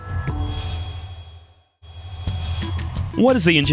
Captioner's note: sound Effects